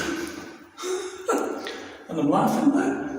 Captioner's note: laughing